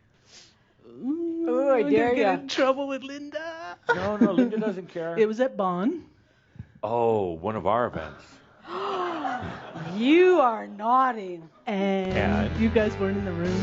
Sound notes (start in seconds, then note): 8.3 gasps; 12.1 fanfare music cuts in